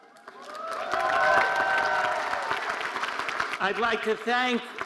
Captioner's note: audience cheering and applauding